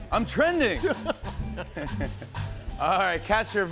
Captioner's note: both laugh